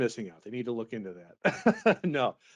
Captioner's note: laughs